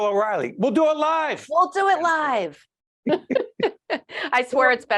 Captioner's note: laughing